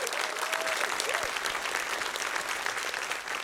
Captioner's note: cheering, applause